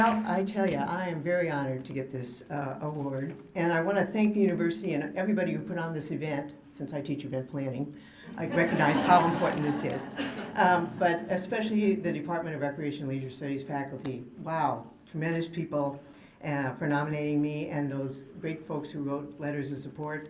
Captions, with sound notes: >> WELL, I TELL YOU, I AM VERY HONORED TO GET THIS AWARD. AND I WANT TO THANK THE UNIVERSITY AND EVERYBODY WHO PUT ON THIS EVENT, SINCE I TEACH EVENT PLANNING, I RECOGNIZE [LAUGHTER] HOW IMPORTANT THIS IS. BUT ESPECIALLY THE DEPARTMENT OF RECREATION AND LEISURE STUDIES FACULTY. WOW. TREMENDOUS PEOPLE FOR NOMINATING ME, AND THOSE GREAT FOLKS WHO WROTE LETTERS OF SUPPORT.